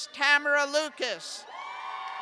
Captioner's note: cheers